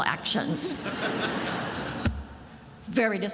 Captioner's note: attendees laughing